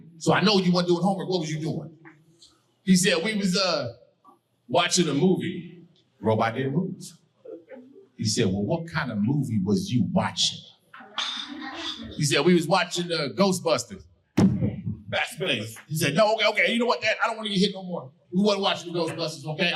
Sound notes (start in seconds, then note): 14.4 thumps mic